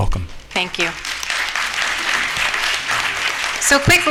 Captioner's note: applause